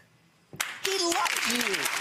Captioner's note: audience applauds